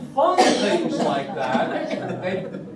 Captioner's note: laughter